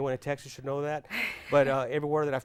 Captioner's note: laughing